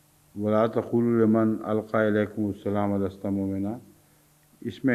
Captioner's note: Arabic